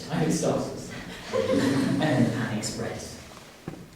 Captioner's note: laughing